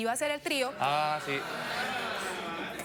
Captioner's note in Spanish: exclamaciones del público